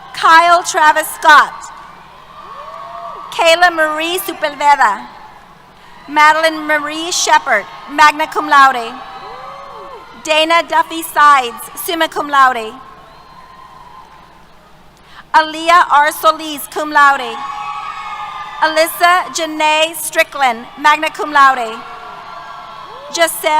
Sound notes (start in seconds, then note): 12.3 cheers